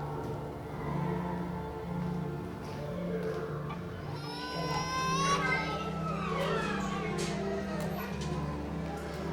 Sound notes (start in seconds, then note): 0.2 cries echoing; 0.2 melancholic pensive music; 4.0 children crying